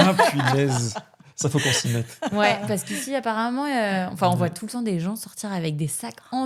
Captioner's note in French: rires